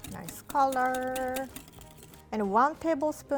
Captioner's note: whisk tapping bowl